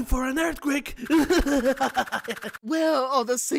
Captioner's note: yang laughs